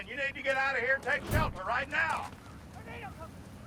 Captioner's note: wind howling